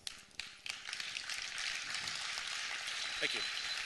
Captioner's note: applause